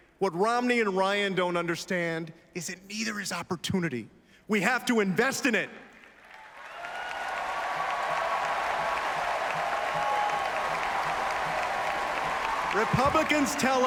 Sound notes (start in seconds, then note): 10.2 applause